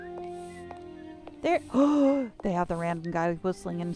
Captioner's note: gasp